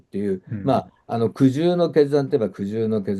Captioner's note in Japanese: 咳払い